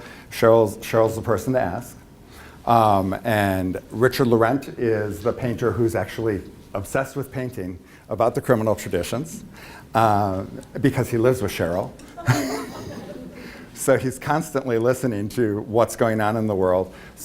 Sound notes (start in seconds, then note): 12.0 laughs